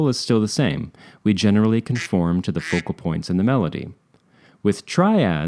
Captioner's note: quack